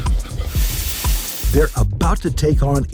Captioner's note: fire sizzles